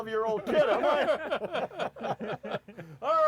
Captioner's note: laughing